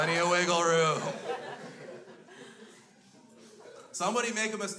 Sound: crowd laughs

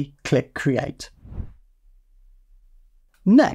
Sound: air whooshing

